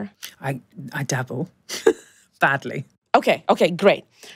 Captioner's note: laughs